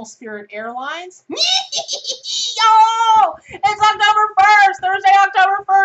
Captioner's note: witch Laughter